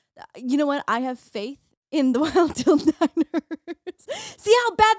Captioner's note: laughing